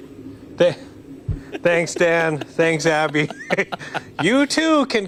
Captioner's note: laughter